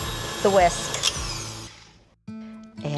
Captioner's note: mixer roars; cheerful acoustic music